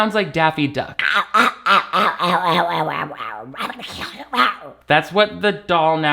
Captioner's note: makes quacking sounds